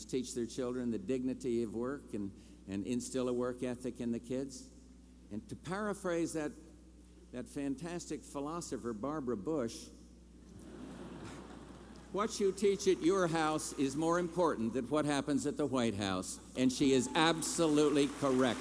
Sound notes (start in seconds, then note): 10.6 laughter